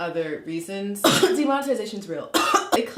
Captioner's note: coughing